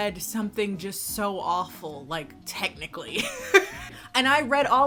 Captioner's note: laughs